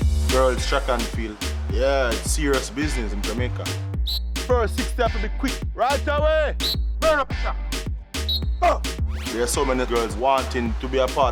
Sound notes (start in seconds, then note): 4.0 whistle blowing